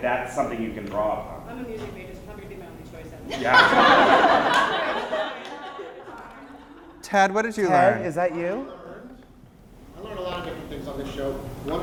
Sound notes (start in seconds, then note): 3.3 laughter; 6.8 voiceover